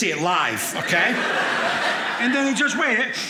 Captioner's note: audience laughing